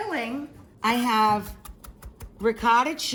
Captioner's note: chopping